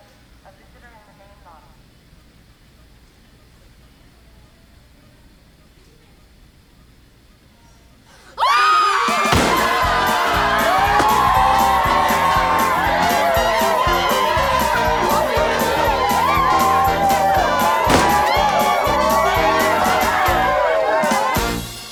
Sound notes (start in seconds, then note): 0.1 awkward silence; 8.4 screaming and cheering; 9.5 celebratory music